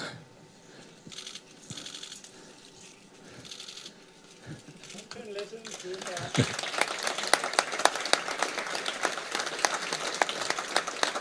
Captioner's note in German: Applause, ribbon cutting